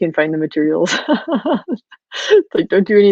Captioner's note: laughing